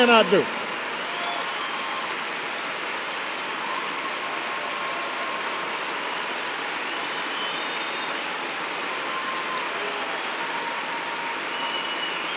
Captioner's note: applause